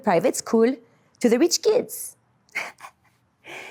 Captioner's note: giggles